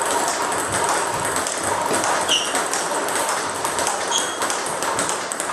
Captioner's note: ball ping pong hitting continues